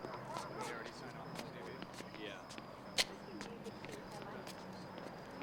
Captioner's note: radio chattering